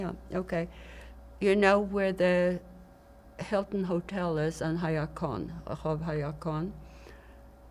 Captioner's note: hebrew